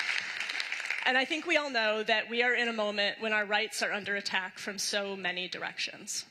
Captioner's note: applause